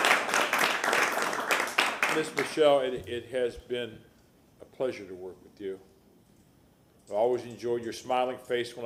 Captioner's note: applause